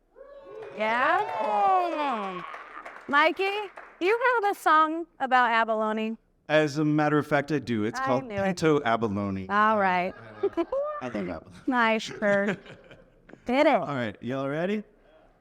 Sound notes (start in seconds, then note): 0.4 audience applauding; 10.0 laughs; 10.1 chuckles